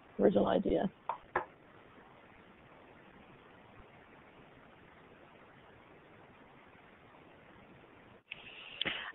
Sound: silence

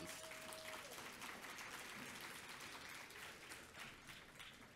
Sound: audience cheering and clapping

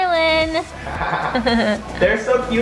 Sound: laughs

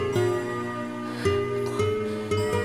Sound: sighs

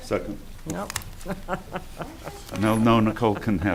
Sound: chuckling

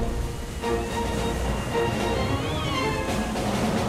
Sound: bomb dropping sound

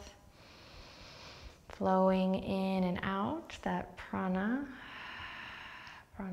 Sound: deep breath

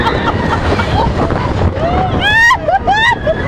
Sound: people laughing and screaming

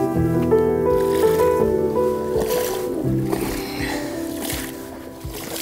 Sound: paddle, splashing

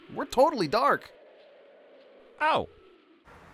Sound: Awkward silence as Jimmy mourns the loss of his beloved camera

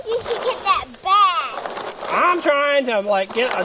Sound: voiceover

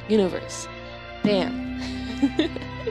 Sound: mic hit and giggle

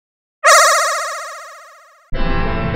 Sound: Sonic warp noise

